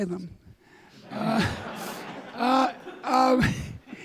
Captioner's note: audience laughing